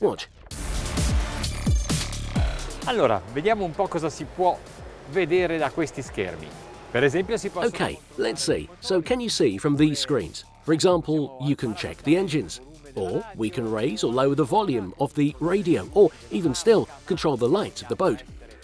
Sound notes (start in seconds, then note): 1.4 techno music; 3.3 foreign language